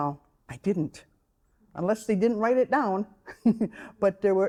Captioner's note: chuckling